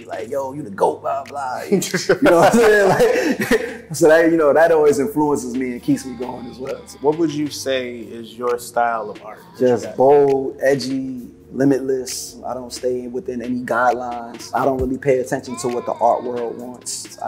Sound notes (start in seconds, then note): 1.5 laughing